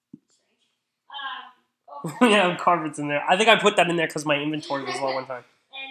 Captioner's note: laughing